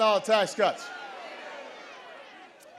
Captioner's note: audience jeers